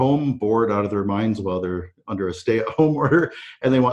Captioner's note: chuckles